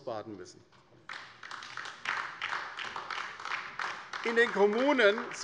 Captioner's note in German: Beifall bei der LINKEN